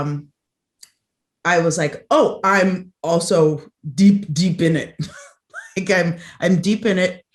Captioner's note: laughs